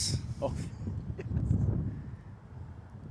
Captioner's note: laughs